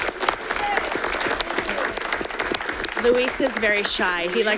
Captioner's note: audience clapping